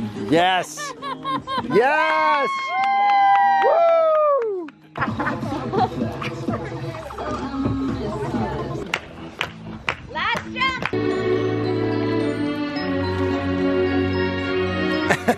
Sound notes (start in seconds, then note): 0.7 laughing; 1.9 cheering; 5.0 techno music playing; 9.4 kids clapping; 10.9 classical music playing